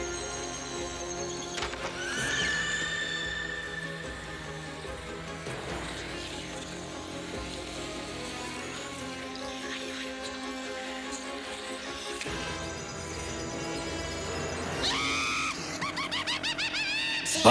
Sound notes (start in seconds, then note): 1.4 shriek